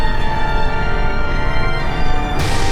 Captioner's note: none